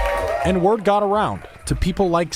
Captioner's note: cheers